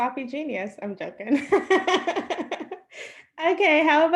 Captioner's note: laughs